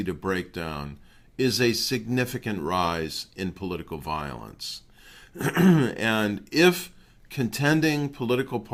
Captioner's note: cough